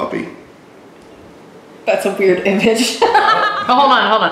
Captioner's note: laughing